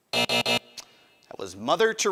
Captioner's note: buzzer buzzing